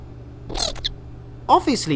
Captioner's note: indignant squawks